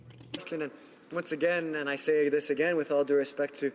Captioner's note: speaking in french